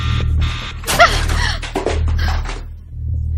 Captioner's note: timer clattering